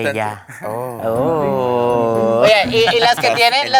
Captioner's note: gasps in doomed yuri